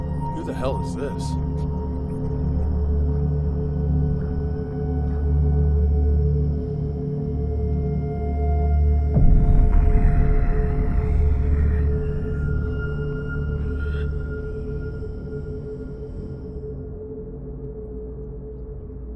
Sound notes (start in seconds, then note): 9.6 low moaning